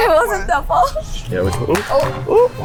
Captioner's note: shushing